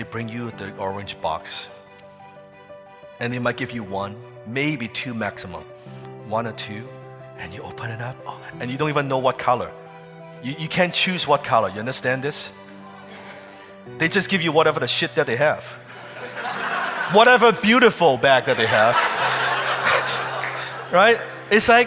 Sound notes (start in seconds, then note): 15.9 audience laughing; 18.5 laughing